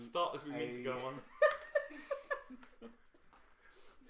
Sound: laughter

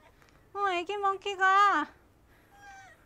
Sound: is crying

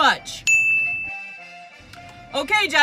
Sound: ding

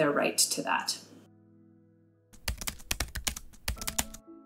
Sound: typing sound effects

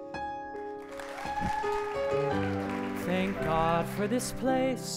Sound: applause

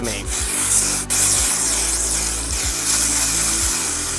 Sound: spraying

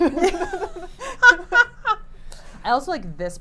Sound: laughing

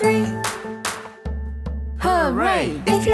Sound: clapping

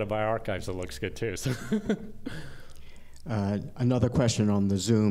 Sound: laughter

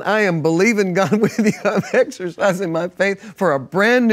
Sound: laughs

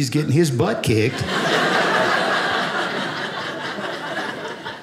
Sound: audience laughing

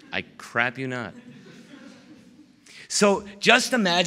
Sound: laughter

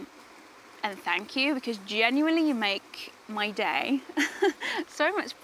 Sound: laughs

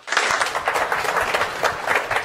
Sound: applause

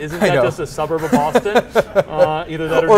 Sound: laughs

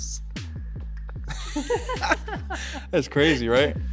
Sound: all laughing

